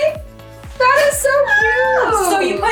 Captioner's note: squeals